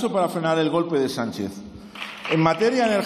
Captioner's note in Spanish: Aplausos